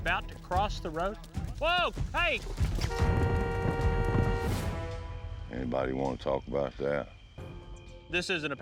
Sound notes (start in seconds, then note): 2.8 car horn